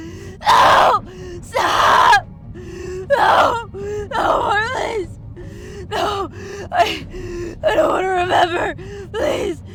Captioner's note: pleading and Screaming